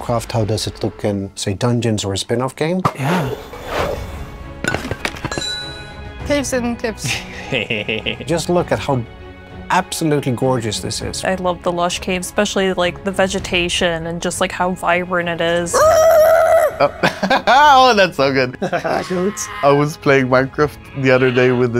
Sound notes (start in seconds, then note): 3.5 playful instrumental; 7.3 laughs; 15.7 howling; 15.7 laughs; 19.0 bleating